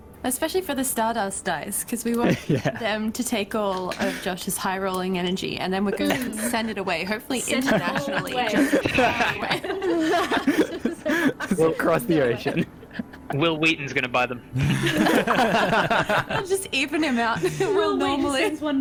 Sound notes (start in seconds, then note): 7.4 laughing; 14.6 all laughter